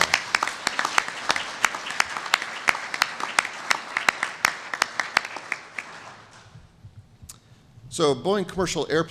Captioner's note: applause